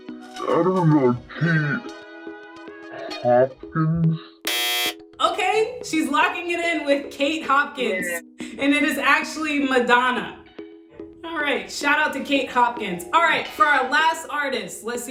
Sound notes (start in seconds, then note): 4.4 buzzer sounds